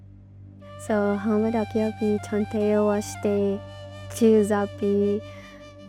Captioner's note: wistful music; speaking in Dakota language